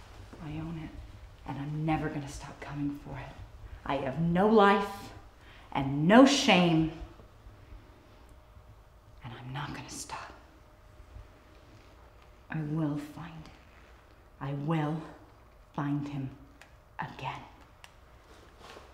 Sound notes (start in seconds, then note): none